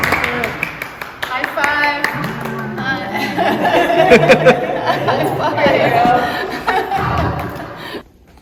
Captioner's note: laugher